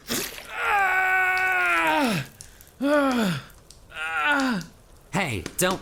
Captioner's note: Host’s shallow breaths; host cries out in pain